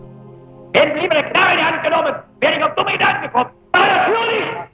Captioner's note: German spoken audio